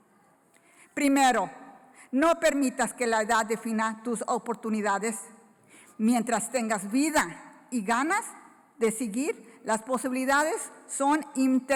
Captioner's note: foreign Language